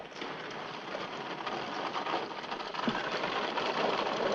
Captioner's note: caravan rattling